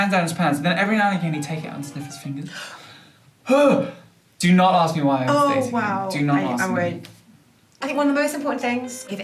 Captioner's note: gasp